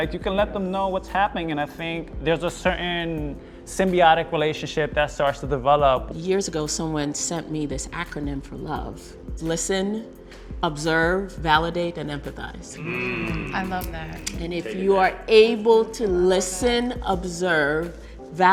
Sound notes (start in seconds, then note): 12.7 everyone hums in agreement